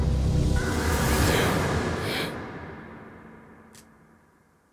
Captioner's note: gasping